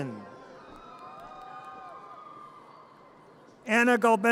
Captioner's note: audience cheers and applause